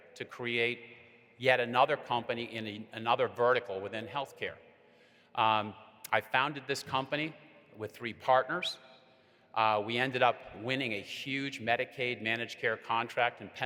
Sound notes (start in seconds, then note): none